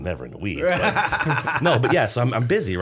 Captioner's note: laughter